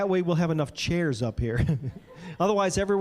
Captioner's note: chuckling